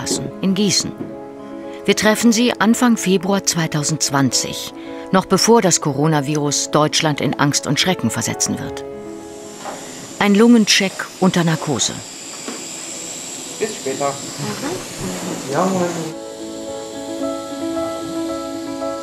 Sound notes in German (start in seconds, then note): 12.1 Luftpfeifen; 16.7 Perlende Klaviermusik